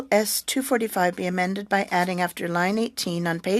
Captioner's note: speaking french